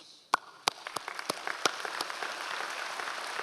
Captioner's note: applauds